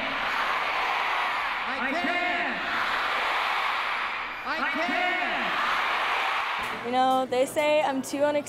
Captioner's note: crown shouting I can